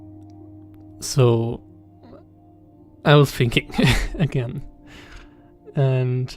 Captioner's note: laughs